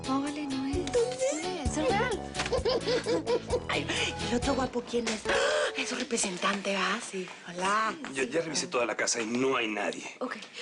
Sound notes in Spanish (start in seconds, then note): 2.3 Risas